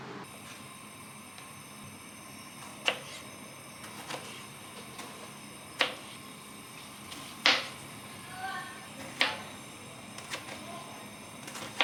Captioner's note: noise coming from excited neighbours 🤣